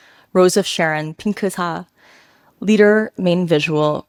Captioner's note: speaks a foreign language